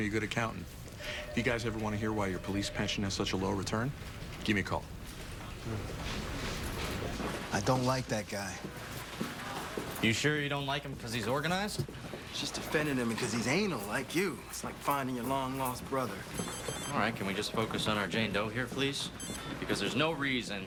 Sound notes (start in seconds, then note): 16.3 cell phone chimes